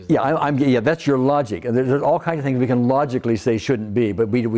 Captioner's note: none